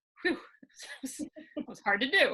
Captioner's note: laughing